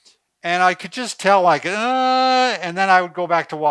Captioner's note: groans